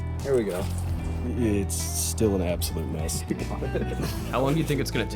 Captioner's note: laughs